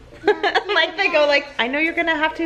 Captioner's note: laughing